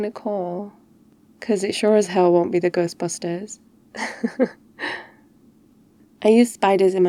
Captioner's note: laughs